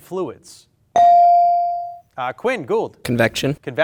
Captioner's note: bell ring